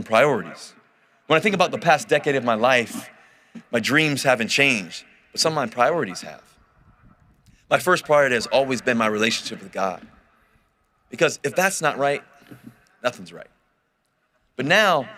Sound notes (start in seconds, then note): none